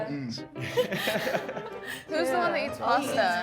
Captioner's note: contestants laughing